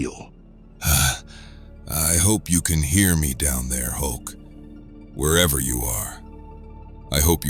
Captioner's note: uhhh